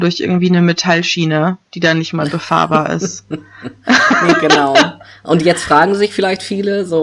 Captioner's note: both laugh